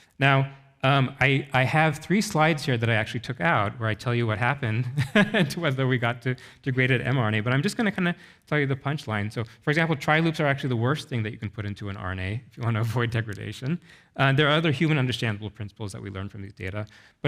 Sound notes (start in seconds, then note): 4.8 chuckles